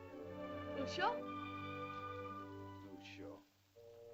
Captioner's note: Loana says "Father?" in caveman language